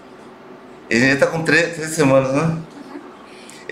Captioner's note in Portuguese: murmúrio de afirmação